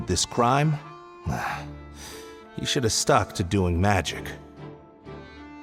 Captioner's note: sigh